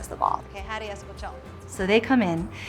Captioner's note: speaks in Spanish language